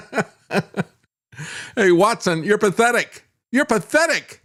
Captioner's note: laughs